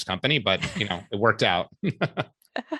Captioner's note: laughter